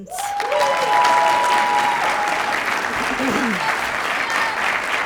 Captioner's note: cheers, applause